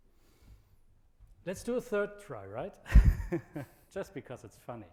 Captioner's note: laughs